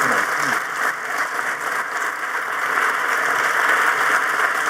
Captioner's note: audience applauding